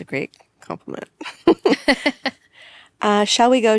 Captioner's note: people laughing